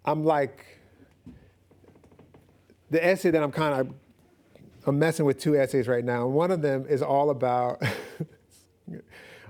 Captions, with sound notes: essay that I'm-- I'm messing with two essays right now, and one of them is all about [chuckles]